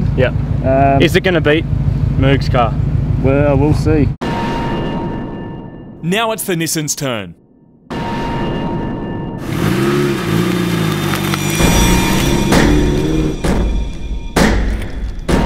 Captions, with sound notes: "Yup" “Um..” “Is it gonna beat MOOG's car? "Well..we'll see [Dramatic music] "Now it's the Nissan's turn" (Dirty SR20 sound) [Dramatic music continues]